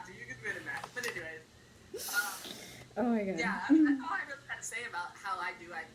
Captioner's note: laughs